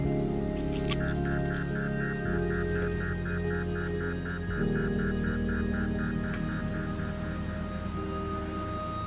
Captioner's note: beeping